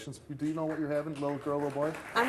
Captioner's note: audience applauding